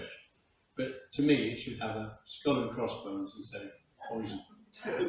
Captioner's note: laughter